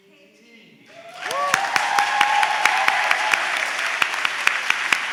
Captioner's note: applause, cheering